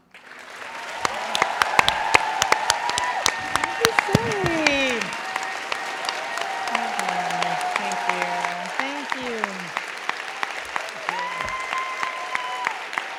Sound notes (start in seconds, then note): 0.0 thunderous applause